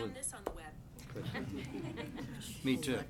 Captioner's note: laughing